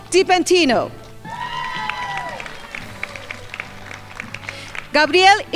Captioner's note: crowd applauding